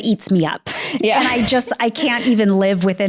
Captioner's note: laughs